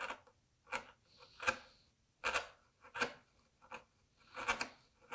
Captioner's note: chisel on wood scraping